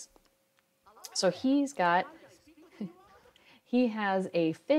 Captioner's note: laughs